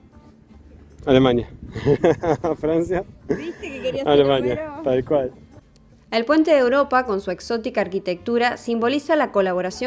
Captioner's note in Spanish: risas